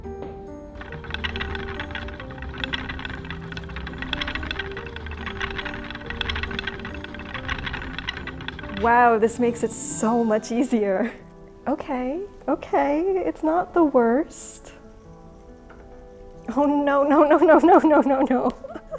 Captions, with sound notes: (wheel grinding) Wow, this makes it so much easier. Okay. Okay. It's not the worst. Oh no, no, no, no, no, no, no, no.